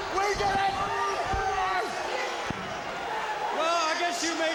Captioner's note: Flair screaming